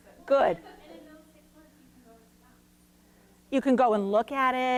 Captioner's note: woman commenting; woman offscreen laughing